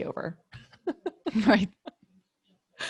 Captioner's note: laughing